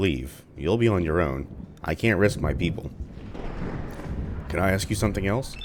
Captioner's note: thunder